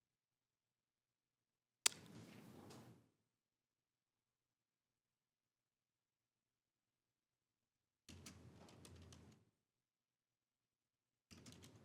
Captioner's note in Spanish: silencio